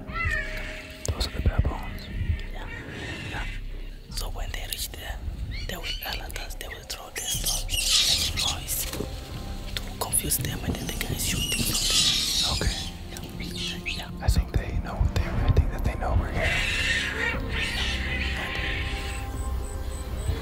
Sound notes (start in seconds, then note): 0.0 animal screeching; 7.3 animal screeching; 16.3 animal screeching; 20.2 animal bleating